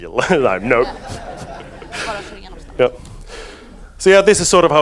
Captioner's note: audience laughs